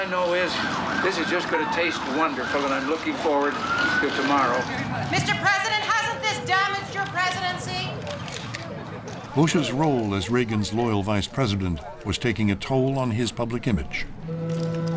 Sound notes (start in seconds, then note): 8.0 camera shutters clicking